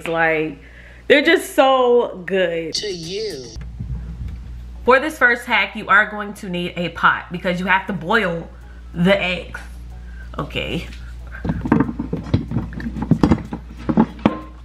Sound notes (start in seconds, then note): 11.3 rustling